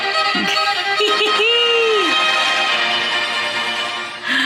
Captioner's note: laughing